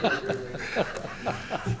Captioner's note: laughter